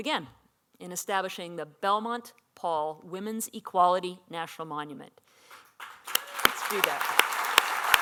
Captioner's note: applause